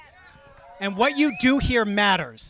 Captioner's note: crowd cheering